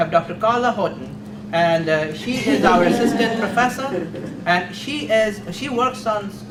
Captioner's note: audience laughs